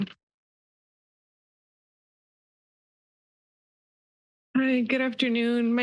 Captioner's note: silence